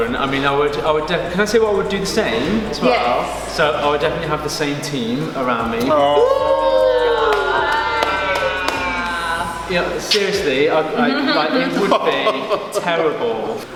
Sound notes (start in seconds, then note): 5.8 whooping; 9.6 smacking kiss